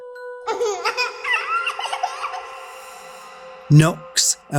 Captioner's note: baby giggling